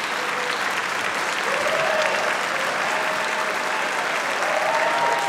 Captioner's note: applause